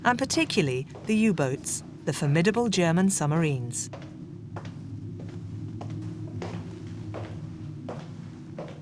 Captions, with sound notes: and, particularly, the U-boats, the formidable German submarines. (footsteps echoing) (dramatic music)